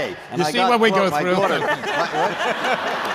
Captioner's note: laughter